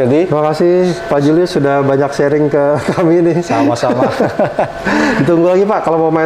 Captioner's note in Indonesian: tertawa kecil